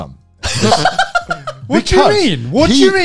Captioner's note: laughs